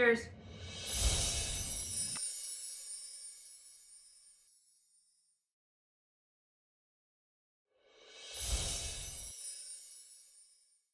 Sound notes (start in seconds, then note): 0.8 chimes tinkle; 8.5 chimes tinkle